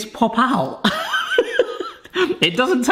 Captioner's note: laughing